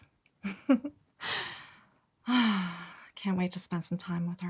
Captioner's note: Jules laughs and sighs